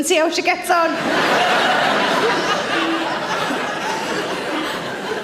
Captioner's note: audience laughs